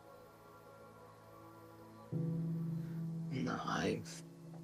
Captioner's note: gentle music; insects chirping